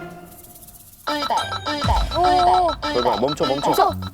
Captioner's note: sudden safety stop siren while driving